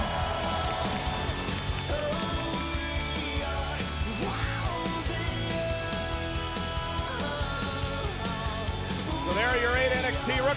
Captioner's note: crowd cheering